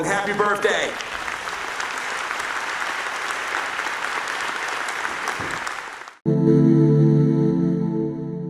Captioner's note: applause